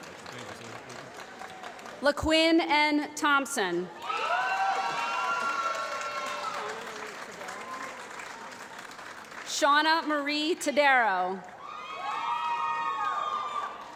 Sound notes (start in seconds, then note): 3.9 applause